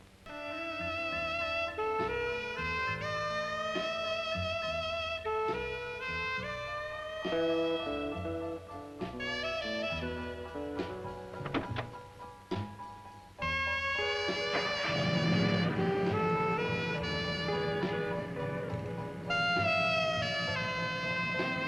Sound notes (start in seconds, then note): 0.3 burlesque music; 13.4 burlesque music; 14.0 car engine starts; 14.7 burlesque music